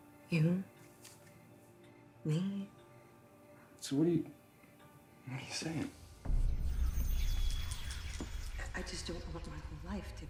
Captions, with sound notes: You, me. - So what are you, what are you sayin'? (mysterious music) (ominous whispers) - I just don't want my whole life